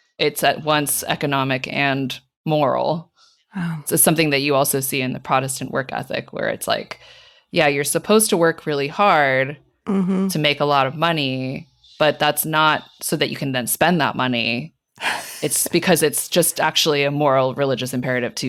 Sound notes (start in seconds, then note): 15.0 laughing